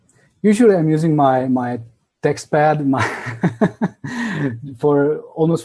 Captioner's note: laughs